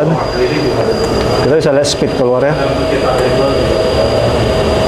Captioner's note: distant chattering